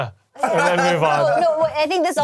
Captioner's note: laughs